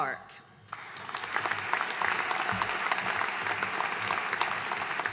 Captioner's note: audience cheering